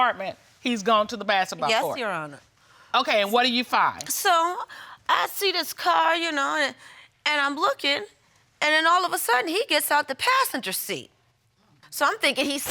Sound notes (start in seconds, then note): none